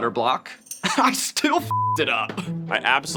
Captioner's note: laughs